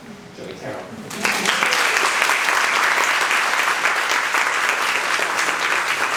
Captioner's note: participants applauding